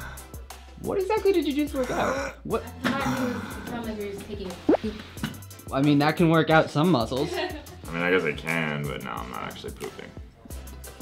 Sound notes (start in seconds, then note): 2.0 grunting; 7.2 laughing